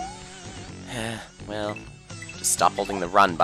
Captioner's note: sigh